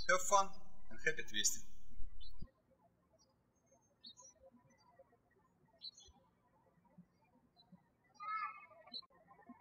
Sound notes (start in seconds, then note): 0.0 birds chirping; 3.3 birds chirping